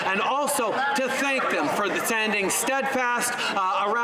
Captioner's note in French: voix de l'interprète